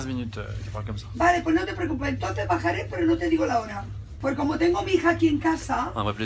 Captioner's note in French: dame qui parle espagnol vite et fortement